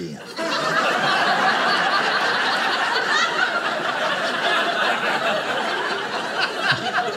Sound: audience laughing

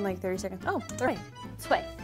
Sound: speaking in mandarin

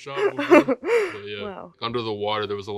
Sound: Elle laughing

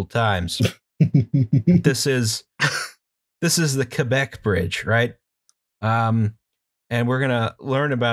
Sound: laughter

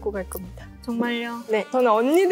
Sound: disappointed

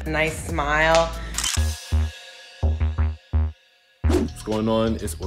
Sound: camera click

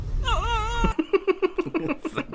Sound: cheeky Laughing

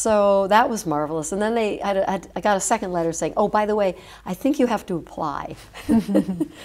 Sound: chuckle

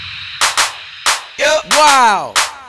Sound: rhythmic clapping

